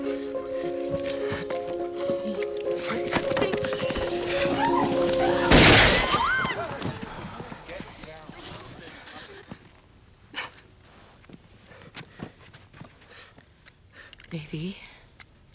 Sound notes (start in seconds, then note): 5.4 gun firing; 6.1 screaming